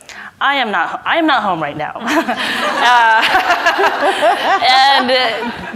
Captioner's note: everybody laughs